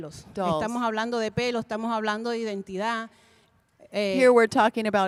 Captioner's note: Spanish language 00:42:53